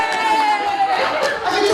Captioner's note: cheering